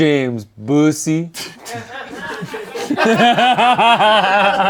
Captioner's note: everyone laughs